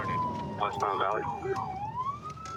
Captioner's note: sirens